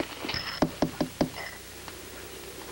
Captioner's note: jill knocks on window